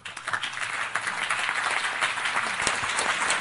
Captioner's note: applause